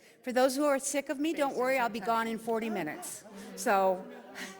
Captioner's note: laughs